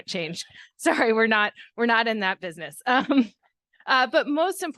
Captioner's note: chuckles